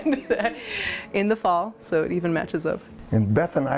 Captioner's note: laughing